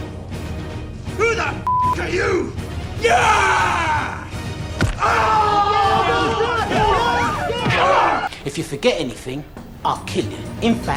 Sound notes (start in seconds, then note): 3.0 begbie screams